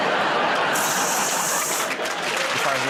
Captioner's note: water hissing